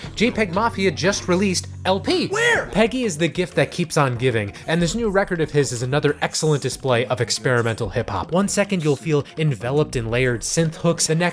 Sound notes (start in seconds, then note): 2.3 screaming